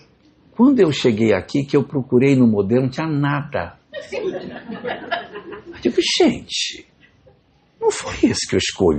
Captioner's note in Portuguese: risadas